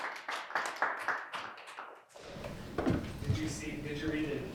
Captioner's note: audience claps